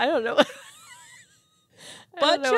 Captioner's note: wheezing